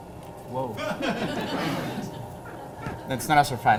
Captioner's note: laughter